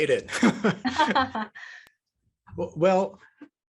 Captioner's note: both laugh